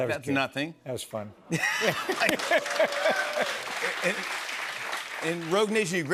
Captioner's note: laughter, cheers, applause